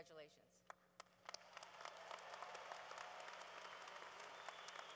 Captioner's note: cheering